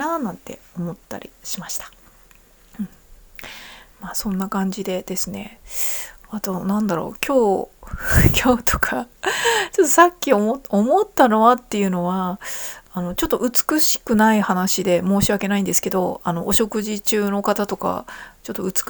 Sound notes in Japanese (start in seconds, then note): 9.2 息をのむ音; 9.5 笑い